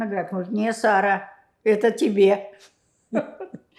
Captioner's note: laughing